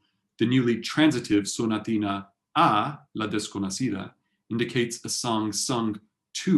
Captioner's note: spanish